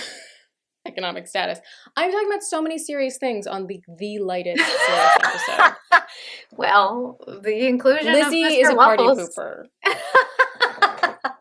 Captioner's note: laughter